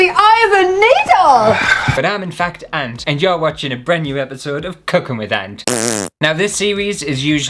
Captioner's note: fart!